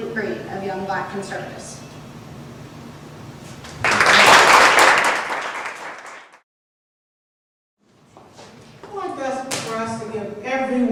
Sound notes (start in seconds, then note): 3.7 applause